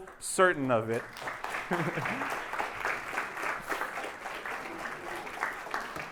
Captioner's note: applause